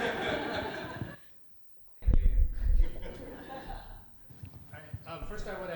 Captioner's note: laughter